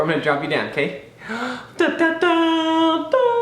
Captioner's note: inhales dramatically; sings intense tune